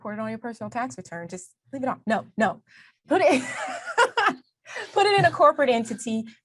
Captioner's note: laughs